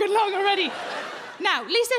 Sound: crowd laugh

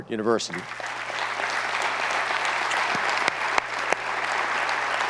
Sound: audience applauds

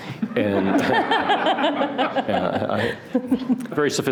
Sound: laughing

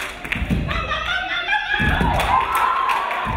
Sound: dancer screaming; crowd applauding; crowd cheering

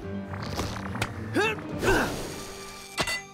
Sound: grunting

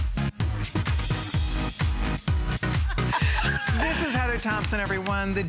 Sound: laughter

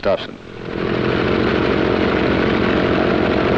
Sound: propeller whirrs

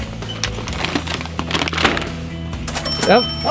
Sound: bag crinkling; cash register dinging

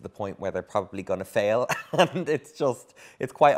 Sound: laughs

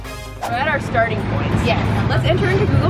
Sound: air whooshing

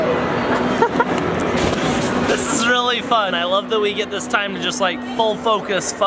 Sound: laughs

